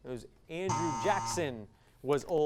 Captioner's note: device sound